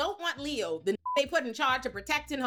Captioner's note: beep